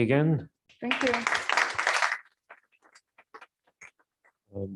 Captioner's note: applause